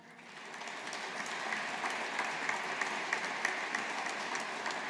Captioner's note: audience applauding